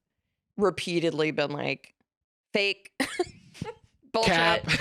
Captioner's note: laughs